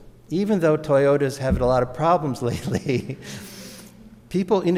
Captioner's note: laughs